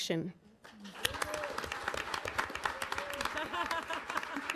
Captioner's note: audience applauding